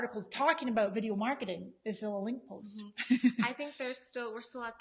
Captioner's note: laughs